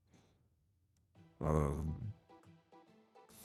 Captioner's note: idiot sounds